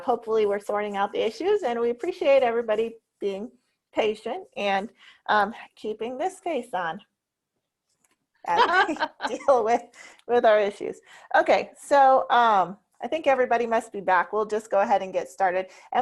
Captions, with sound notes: Hopefully we're sorting out the issues and we appreciate everybody being patient and keeping this face on. (woman laughs) As we deal with our issues. Okay, so I think everybody must be back. We'll just go ahead and get started.